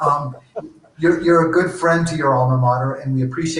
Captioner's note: laughs